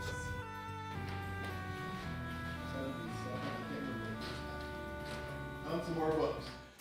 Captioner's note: gentle pleasant music; muffled chatter